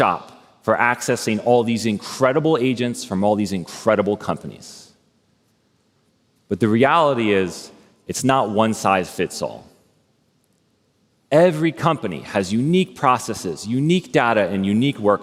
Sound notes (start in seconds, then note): none